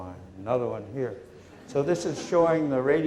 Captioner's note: laughter